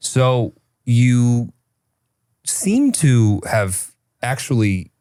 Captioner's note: none